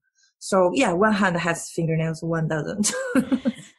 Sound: laughs

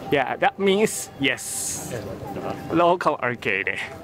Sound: none

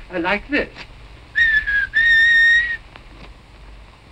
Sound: whistling

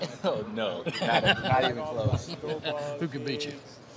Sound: interviewer laughing

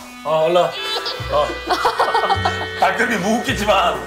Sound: deep sigh/ Devastated

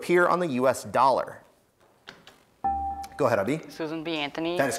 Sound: buzzer beeps

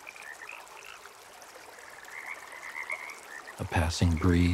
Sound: water rippling

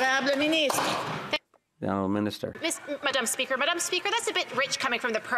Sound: some Applause

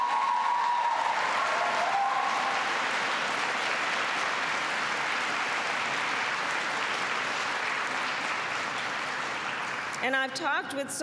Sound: applause

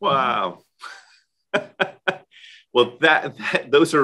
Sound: laughs

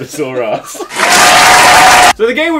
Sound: audience applause

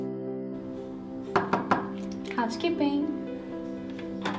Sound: knocking

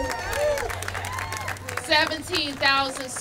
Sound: applause

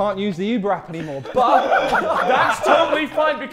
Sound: Sidemen laughing

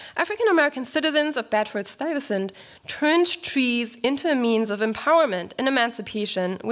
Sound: none

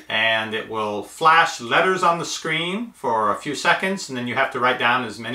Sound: none

